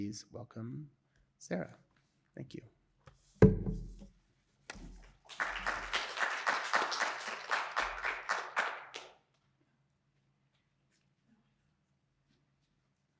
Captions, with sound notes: so please welcome Sarah, thank you. (laptop thumps) (audience applauding)